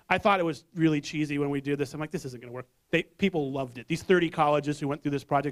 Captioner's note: none